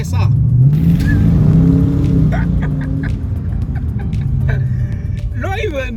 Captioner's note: laugh